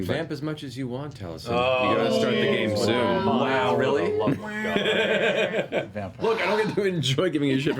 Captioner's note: laughter